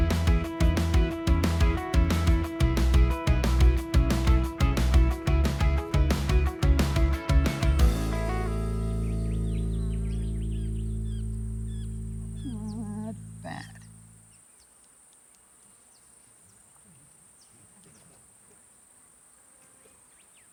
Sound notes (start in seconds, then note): 0.2 upbeat ensemble guitar music; 8.3 birds chirping